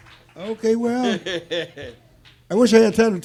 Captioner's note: laughing